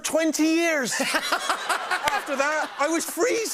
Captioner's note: laughter